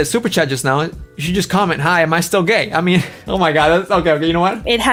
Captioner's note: laughs